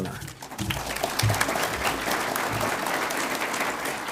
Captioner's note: audience applauds